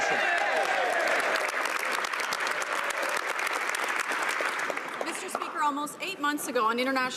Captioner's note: speaking French